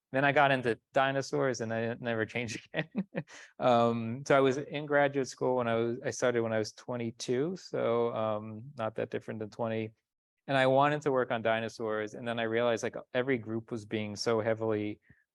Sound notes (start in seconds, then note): 2.4 chuckles